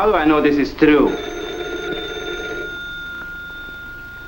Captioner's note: phone rings